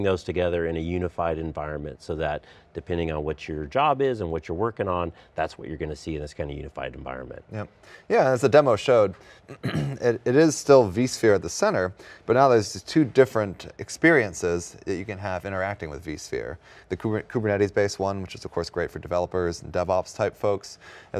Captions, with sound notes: those together in a unified environment. So that, depending on what your job is and what you're working on, that's what you're going to see in this kind of unified environment. >> Yeah, as the demo showed, (clears throat) it is still vSphere at the center, but now there's two different experiences that you can have interacting with vSphere, Kubernetes base one, which is of course great for developers and DevOps type folks,